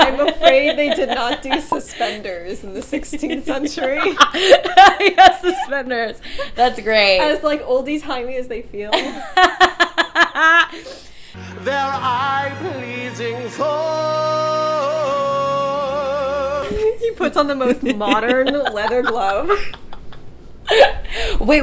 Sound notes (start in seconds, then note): 3.7 Lilla laughing; 9.0 both laughing